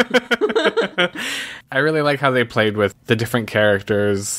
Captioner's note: laughs